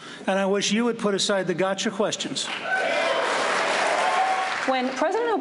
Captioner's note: cheering and applause